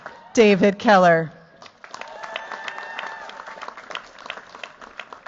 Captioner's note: cheers, applause